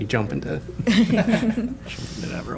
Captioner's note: laughter